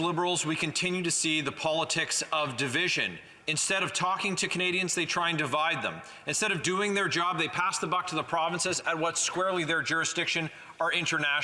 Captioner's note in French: voix de l'interprète